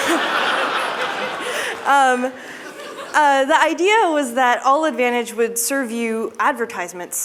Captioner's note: laughter